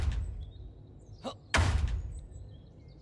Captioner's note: door breaking sound